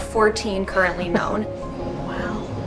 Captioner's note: laughs